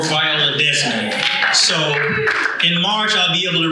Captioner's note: audience cheers